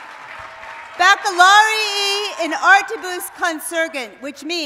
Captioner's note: speaking latin